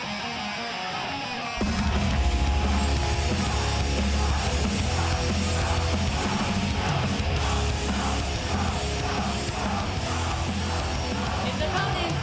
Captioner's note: crowd cheering